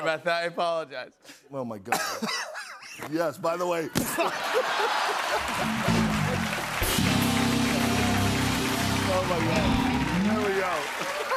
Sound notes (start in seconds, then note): 4.0 laughter and applause; 10.9 laughing